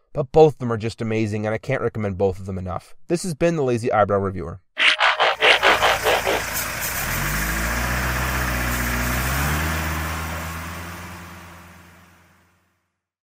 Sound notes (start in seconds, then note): 4.8 transformation noises; 6.8 fading vehicle noises